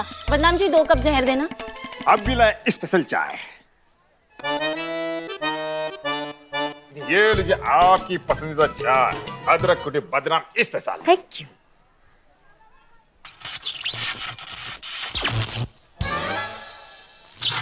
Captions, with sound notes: Badnaam, bring two cups of poison. Two special tea, right away. [comical music playing] Here you go, your favourite tea. Special ginger tea. [sound of electricity]